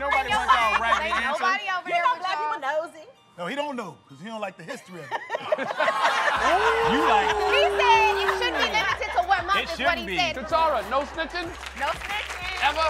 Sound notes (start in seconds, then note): 5.0 laughter